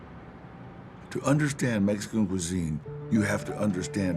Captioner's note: narrator in English